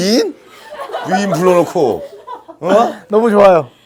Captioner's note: haha